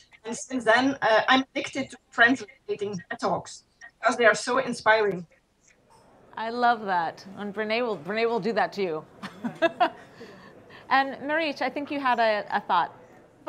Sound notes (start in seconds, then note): 9.2 laughter